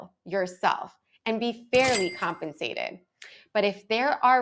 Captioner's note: cash register dings